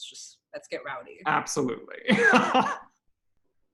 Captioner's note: laughs